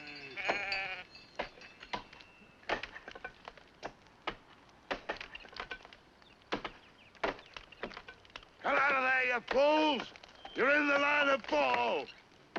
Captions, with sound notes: (sheep baa) (axes chopping at tree) - Come out of there you fools! You're in the line of the fall.